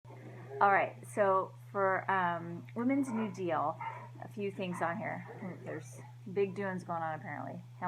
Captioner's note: dog barking